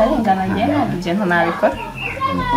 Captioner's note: phone rings